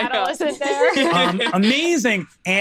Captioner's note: laughs